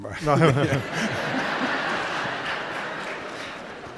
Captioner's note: laughter